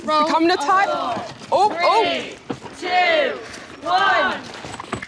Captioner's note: crowd